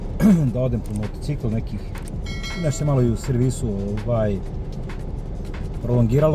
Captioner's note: coughs